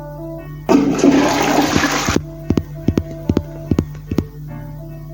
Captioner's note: flush sfx; walking sfx